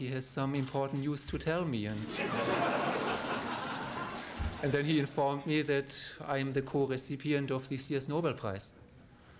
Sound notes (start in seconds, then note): 2.0 laughter